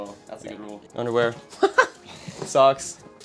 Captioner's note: laughs